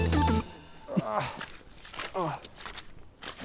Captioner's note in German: Matschgeräusche beim Gehen